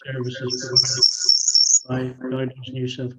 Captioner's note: audio distorts, high-pitched squeak